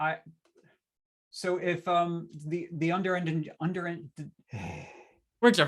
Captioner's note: sighs